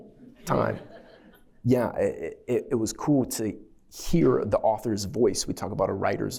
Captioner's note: laughter